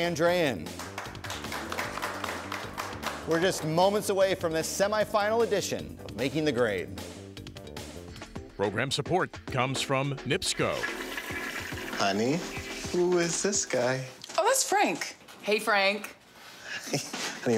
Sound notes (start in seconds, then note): 0.7 audience applauding; 10.4 toilet flushes